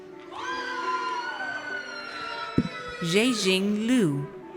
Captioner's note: audience cheers